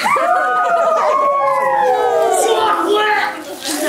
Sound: children scream; laughs

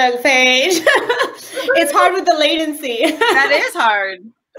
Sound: laughs

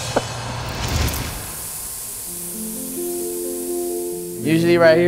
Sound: hibachi sizzles

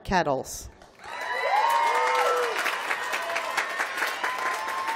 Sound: applause

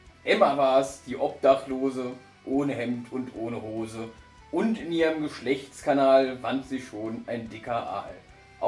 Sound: none

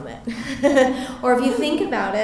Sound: laughter

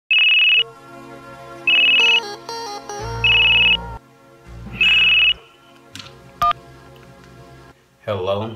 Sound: phone rings

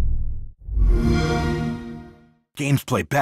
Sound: xbox sound

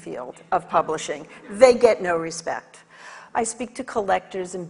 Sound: audience laughs

